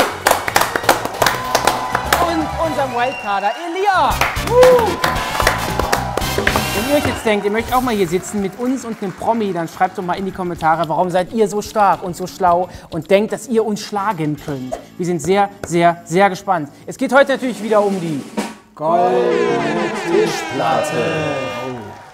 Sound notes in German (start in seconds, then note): 0.1 Applaus; 1.5 Jubel; 4.0 Dynamische Musik; 4.5 Jubel